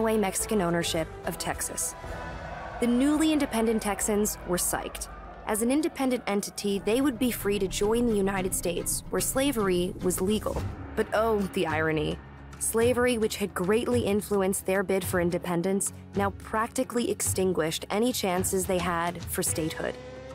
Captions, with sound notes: Mexican ownership of Texas. [cheering] The newly independent Texans were psyched. As an independent entity, they would be free to join the United States, where slavery was legal. But oh, the irony-- slavery, which had greatly influenced their bid for independence, now practically extinguished any chances they had for statehood.